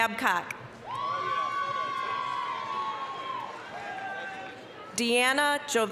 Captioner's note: applause, cheering